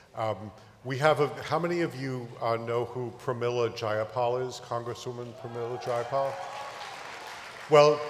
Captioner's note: applause